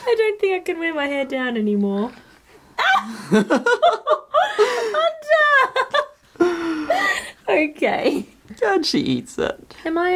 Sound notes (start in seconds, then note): 2.8 laughs